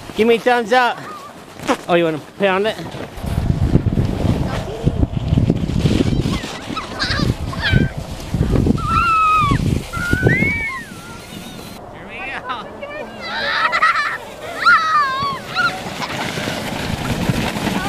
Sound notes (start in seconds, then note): 6.2 laughing; 7.0 cheering; 12.2 laughing; 14.5 cheering